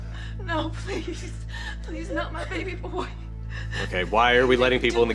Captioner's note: weeping